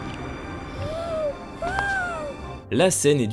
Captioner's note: Chihiro's cry of amazement